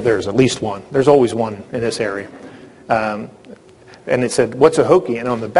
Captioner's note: laughter